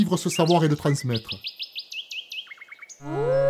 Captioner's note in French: Chants d'oiseaux; Vibreur du smartphone et hurlement d’un loup comme sonnerie